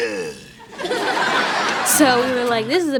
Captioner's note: laughter